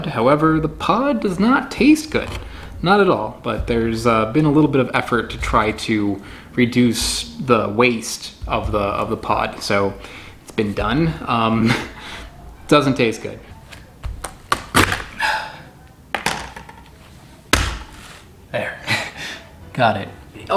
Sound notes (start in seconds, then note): 11.5 chuckles; 14.1 pod cracking; 16.2 knife clattering; 17.5 pod thumps